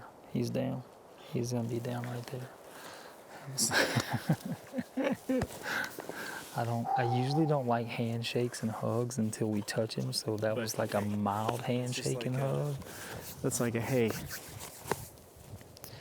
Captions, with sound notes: - He's down, he's gonna be down right up there. (laughing together) I usually don't like handshakes and hugs until we touch him, so that was like - Okay, just like a- - a mild hand shaking hug. - That's like a, hey.